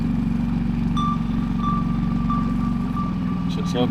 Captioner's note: sonar beeping sound